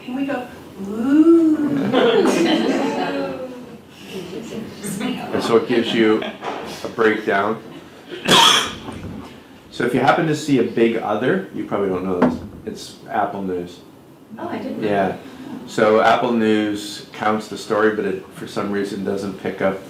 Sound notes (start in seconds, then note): 1.3 laughs; 8.2 coughs